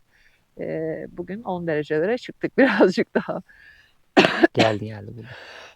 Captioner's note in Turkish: öksürme; kahkaha